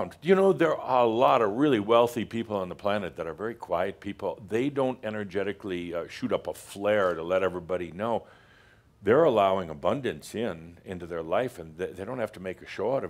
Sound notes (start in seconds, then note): none